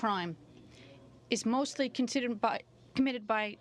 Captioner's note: speaking in french